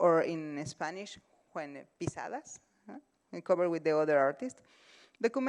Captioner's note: spanish